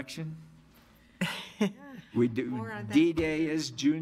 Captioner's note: audience laughs